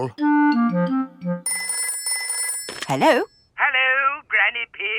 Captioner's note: telephone ringing